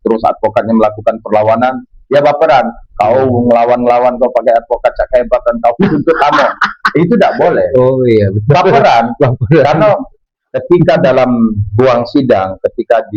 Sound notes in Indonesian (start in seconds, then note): 5.8 tertawa